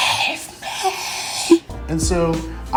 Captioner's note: whispers